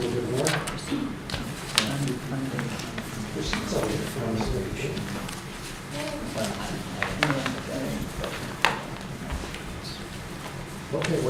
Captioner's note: background Discussion